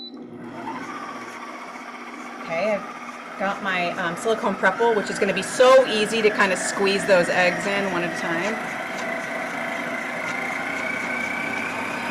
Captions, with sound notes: (mixer whirs) Okay, I've got my Silicone Prep Bowl, which is gonna be so easy to kind of squeeze those eggs in one at a time.